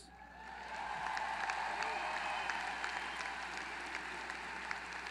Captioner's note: applause